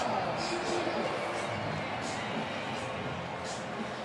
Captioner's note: pa announcement